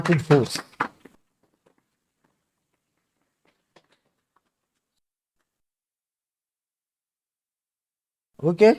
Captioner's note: claps